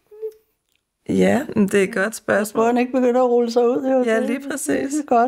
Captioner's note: chuckles